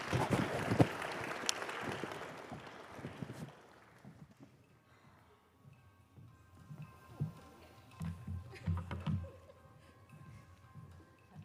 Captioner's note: applause